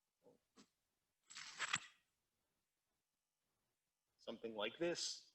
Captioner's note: velcro pulls apart